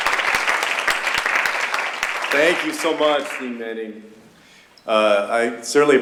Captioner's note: applause